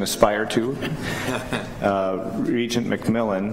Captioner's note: laughter